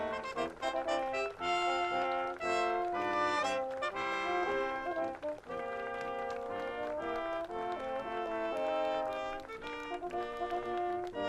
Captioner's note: applause; cheering